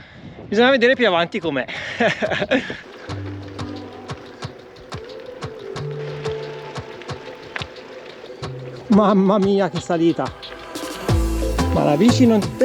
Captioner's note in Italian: Applauso